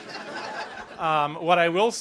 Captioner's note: laughter